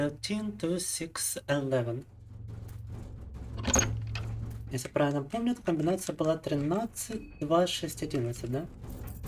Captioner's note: speaking in Russian